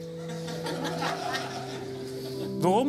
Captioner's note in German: lachen